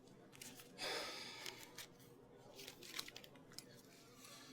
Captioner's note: Alan sighs